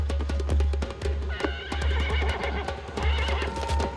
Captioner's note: neighing